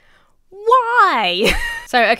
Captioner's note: laughs